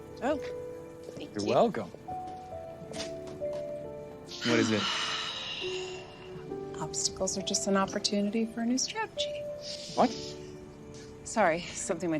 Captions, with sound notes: -You're welcome. -[ Sighs ] -What is it? -Obstacles are just an opportunity for a new strategy. -What? -Sorry. Somethining my dad always say.